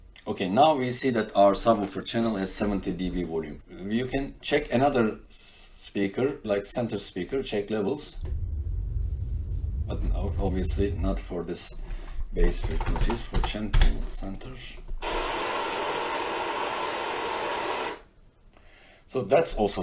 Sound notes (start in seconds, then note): 17.1 pink Noise